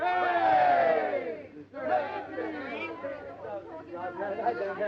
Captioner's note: group chattering